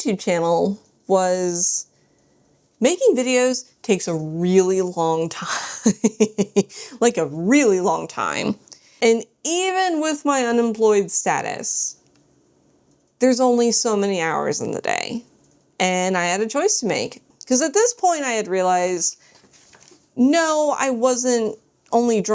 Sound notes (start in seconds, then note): 5.8 laughs